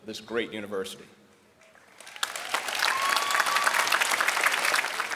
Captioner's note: applause